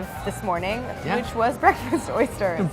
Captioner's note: laughs